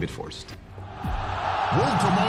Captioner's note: crowd cheering